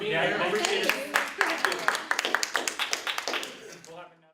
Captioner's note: applause